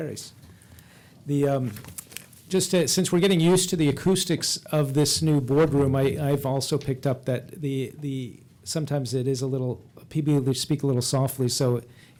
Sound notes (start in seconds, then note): none